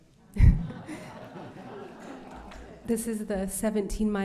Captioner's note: laughter